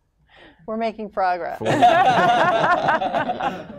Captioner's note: laughter